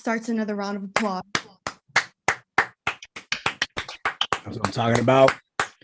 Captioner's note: gang clapping